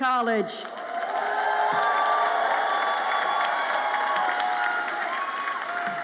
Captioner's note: audience applauds and cheers